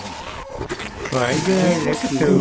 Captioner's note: glitches